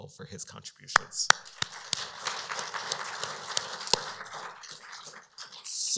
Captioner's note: applause